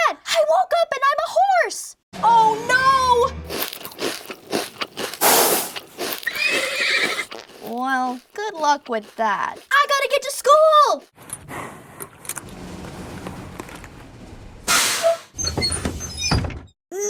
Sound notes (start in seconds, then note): 3.5 horses chewing; 6.2 horse neighing; 12.6 bus brakes squealing; 14.7 bus doors squeaking